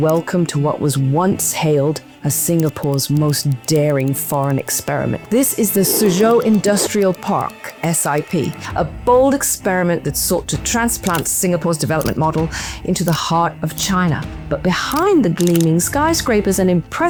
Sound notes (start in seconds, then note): 5.3 sip